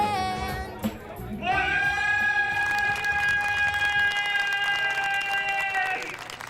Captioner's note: cheers and applause